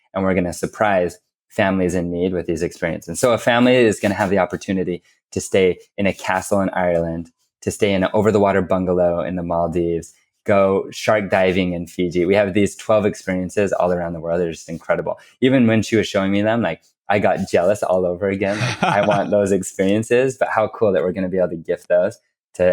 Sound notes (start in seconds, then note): 18.4 laughs